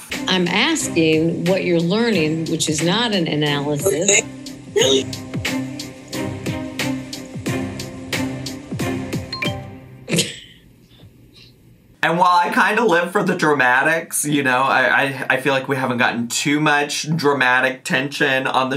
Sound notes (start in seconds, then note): 3.8 intriguing music; 9.4 screen dinging; 10.1 chuckling